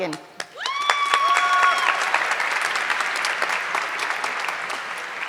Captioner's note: audience clapping